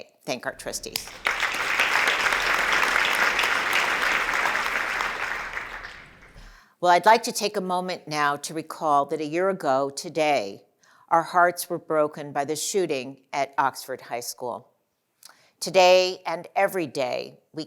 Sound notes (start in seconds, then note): 0.6 applause